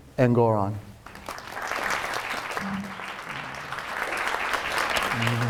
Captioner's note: audience applauds